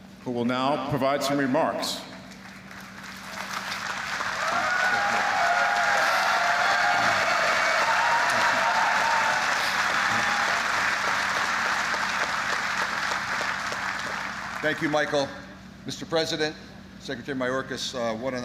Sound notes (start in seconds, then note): 2.2 applause